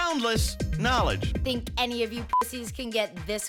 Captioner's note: beep